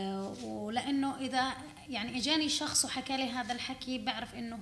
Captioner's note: speaking arabic